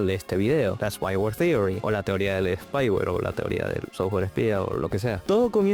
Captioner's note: rambling in spanish